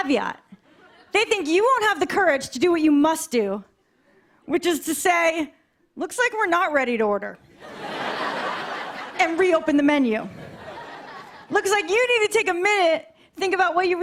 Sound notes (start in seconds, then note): 7.5 laughter